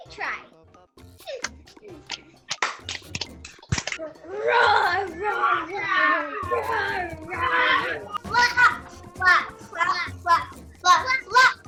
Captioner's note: clapping, roaring